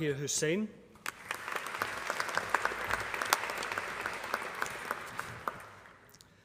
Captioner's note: applause